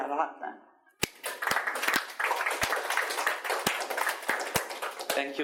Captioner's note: audience applauds